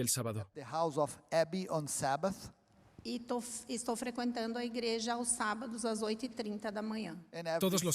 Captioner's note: Hablando idioma extranjero